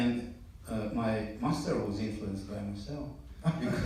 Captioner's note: laughter in the audience